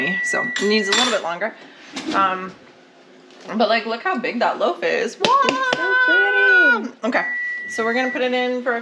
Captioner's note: happy noises